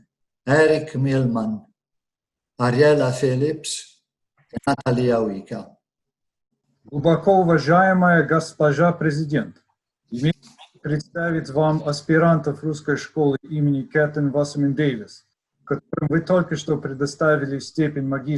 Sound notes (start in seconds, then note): 6.9 speaks Russian